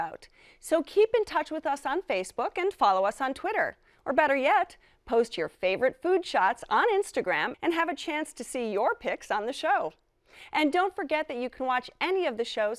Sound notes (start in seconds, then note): none